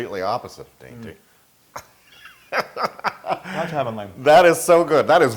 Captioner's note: laugh